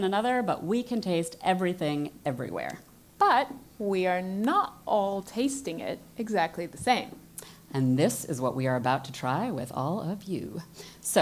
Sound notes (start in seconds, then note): none